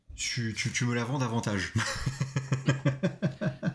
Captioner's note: laughs